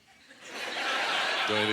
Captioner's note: audience laughter